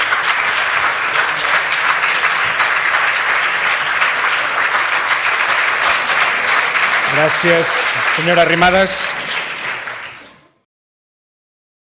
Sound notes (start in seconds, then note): 0.2 applause